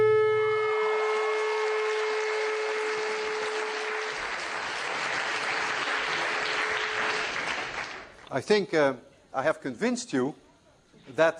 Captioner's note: applause